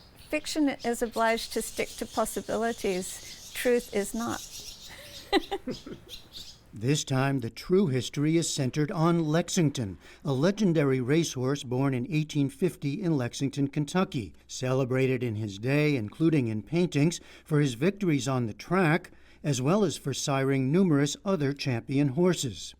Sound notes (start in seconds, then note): 4.9 laughter